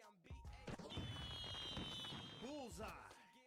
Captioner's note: fireworks popping